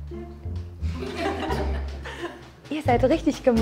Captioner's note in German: Lachen